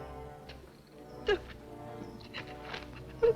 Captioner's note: sobbing